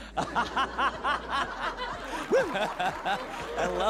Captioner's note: laughter